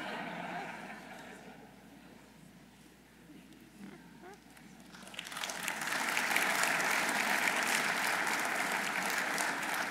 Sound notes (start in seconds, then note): 0.0 audience laughing; 4.8 audience applauding